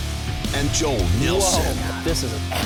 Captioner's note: voiceover